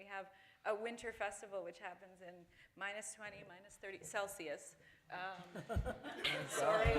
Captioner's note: laughter